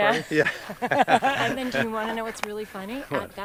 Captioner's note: both laughing